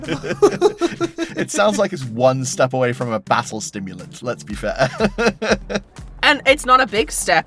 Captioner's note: chuckles